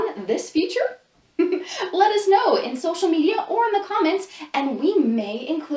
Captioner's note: laughs